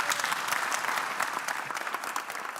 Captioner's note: applause